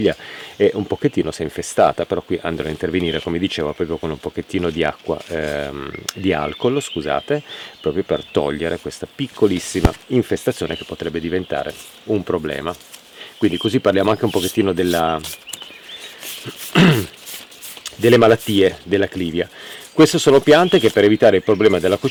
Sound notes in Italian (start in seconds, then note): 16.5 schiarire la voce